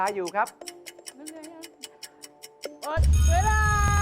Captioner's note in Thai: เสียงนาฬิกา